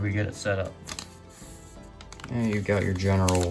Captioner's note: paper crinkles